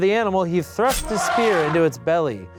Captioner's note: elephant noise